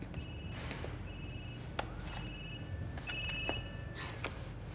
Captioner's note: phone ringing